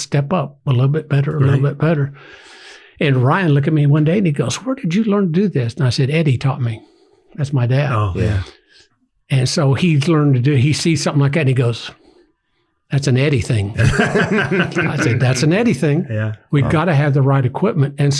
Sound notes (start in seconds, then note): 13.7 everyone laughs